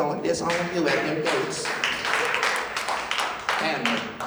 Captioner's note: clapping